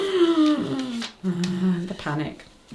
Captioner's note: laughs; breathes sharply